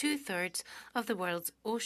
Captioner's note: speaking French